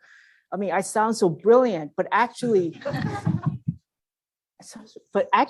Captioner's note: laugh